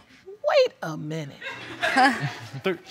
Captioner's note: wolf chuckles; audience laughs